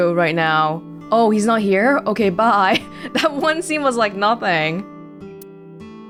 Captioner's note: chuckles